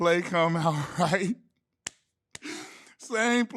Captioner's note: laughing